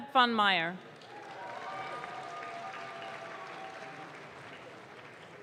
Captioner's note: audience claps